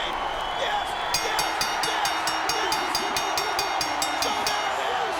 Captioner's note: bell dinging